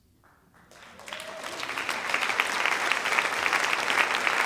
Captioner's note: audience applauding